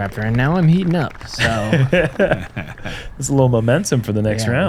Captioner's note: laughter